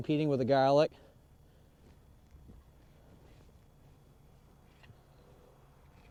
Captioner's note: pause